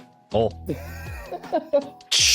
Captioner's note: laughing